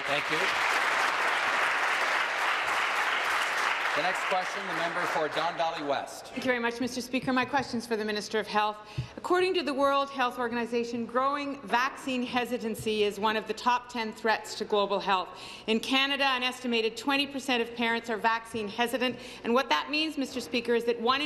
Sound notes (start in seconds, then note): 6.3 applause